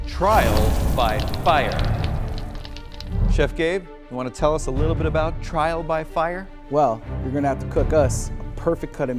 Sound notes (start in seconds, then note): 0.2 air whooshing; 2.3 fire crackling